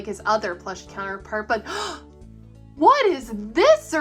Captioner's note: gasp